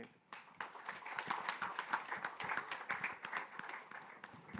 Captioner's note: light applause